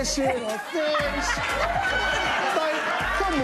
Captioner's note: laughter